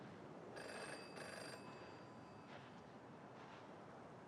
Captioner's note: phone rings